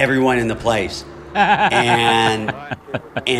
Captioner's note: laughter